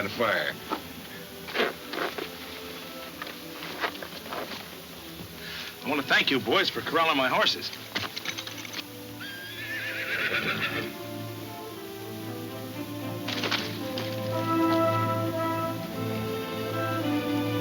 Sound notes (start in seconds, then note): 0.2 ropes tightening; 9.1 horse whinnying; 12.8 dramatic music